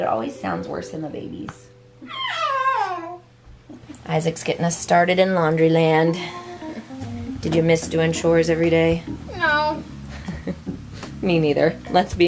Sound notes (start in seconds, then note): 2.2 exclaiming; 10.1 chuckling